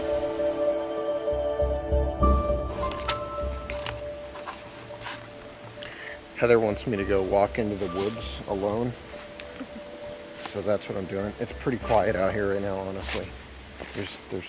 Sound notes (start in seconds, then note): 3.1 camera clattering